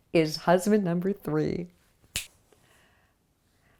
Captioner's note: snap